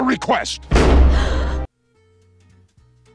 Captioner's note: slams door; BELLE gasps